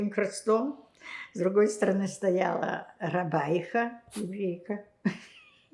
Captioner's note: laughing